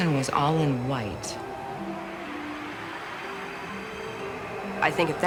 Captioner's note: whooshing, gentle music